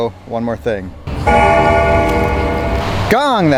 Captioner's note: bell tolls